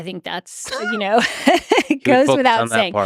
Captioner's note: Lex and Jennifer laugh